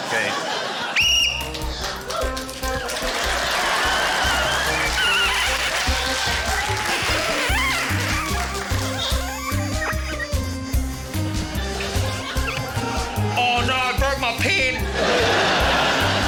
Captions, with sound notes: OK. (WHISTLE TRILLS) (CHEERING, APPLAUSE) (MARKERS SQUEAK) - Oh no, I broke my pen. (LAUGHTER)